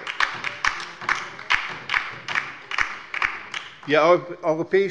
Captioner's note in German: Beifall bei der LINKEN